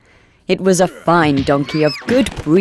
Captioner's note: sounds of violence